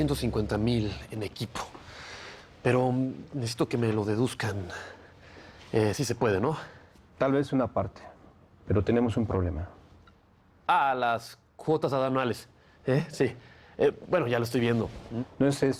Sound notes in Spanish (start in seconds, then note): none